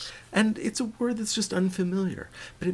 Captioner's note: voiceover